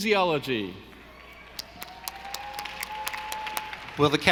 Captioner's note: audience applauding